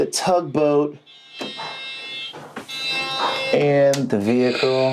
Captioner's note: tugboat horns